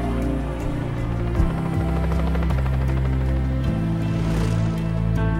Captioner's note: helicopter whirring; inspiring music